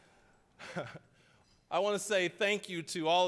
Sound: audience laughing; chuckling

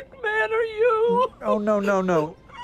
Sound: sobbing

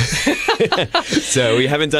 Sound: laughter

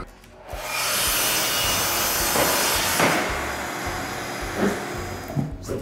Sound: miter saw grinding

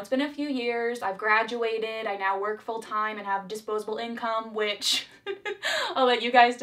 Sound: laughs

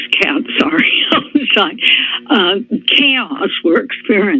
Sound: laughter

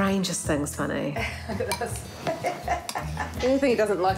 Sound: laughs

